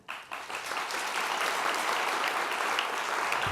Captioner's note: applause